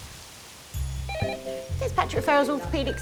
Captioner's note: telephone rings